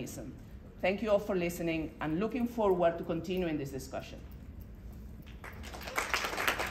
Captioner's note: applause